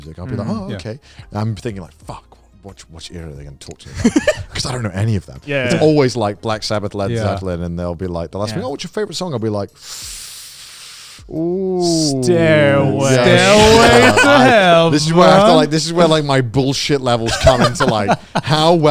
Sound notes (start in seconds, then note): 9.8 breathes deep